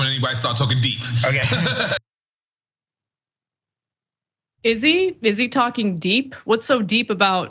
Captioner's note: laugh